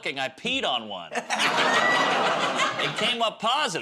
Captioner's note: laughter